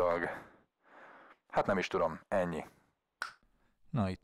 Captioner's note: snap